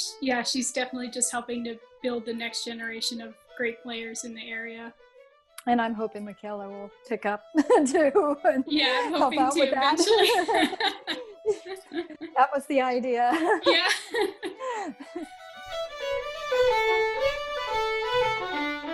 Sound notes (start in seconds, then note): 7.5 laughs; 15.6 irish fiddle music